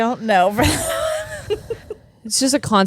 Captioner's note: laughing